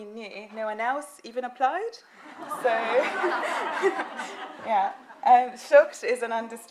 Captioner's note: laughing